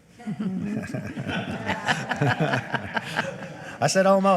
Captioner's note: everybody laughing